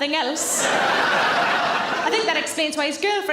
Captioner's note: audience laughing